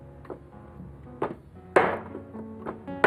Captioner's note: banging